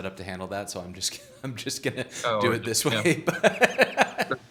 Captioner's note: laughing